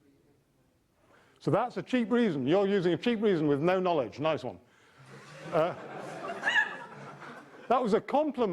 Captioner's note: audience laughter